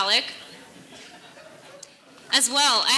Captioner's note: audience lightly chuckling